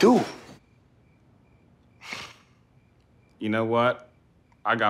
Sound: Wendell sighing

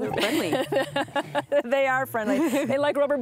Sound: laughs

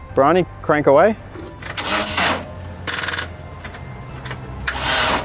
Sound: engine tries to start

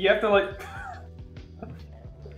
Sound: exhale

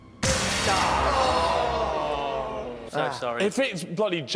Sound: dramatic crescendo; groaning

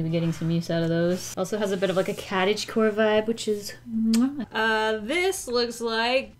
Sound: mwah

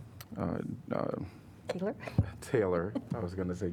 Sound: laughter

